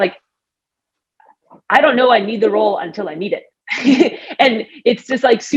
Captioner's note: laughs